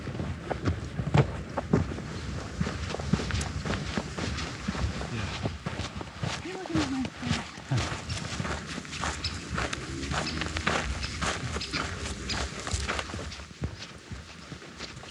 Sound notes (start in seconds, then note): 2.3 feet stomping; 6.4 chattering